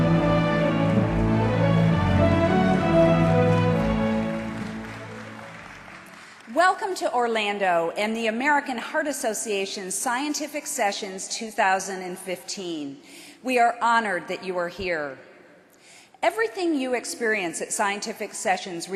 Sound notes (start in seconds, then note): 2.9 applause